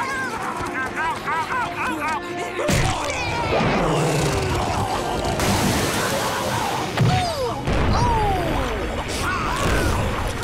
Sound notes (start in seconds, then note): 3.4 grunting